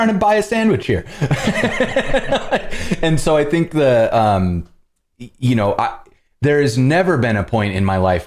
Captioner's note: laughter